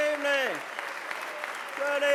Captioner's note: applause